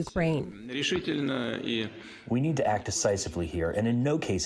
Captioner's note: through translator